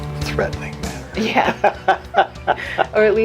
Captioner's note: both laugh